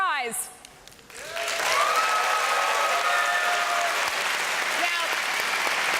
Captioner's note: applause and cheering